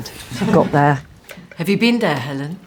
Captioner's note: laughter